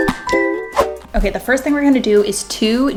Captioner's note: cheerful music; air whooshes